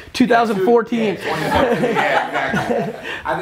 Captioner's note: group laughter